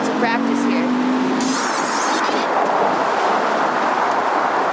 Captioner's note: cars whooshing